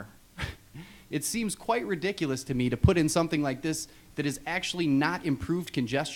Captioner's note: laughs